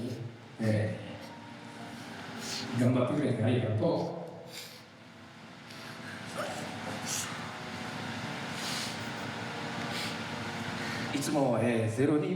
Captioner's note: speaking in foreign language